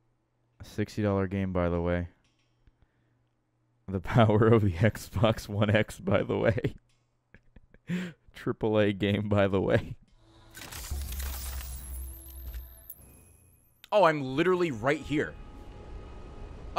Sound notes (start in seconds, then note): 5.8 laughs